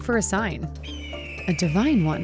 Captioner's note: bird calls